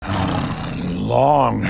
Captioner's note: Battle Beast snarls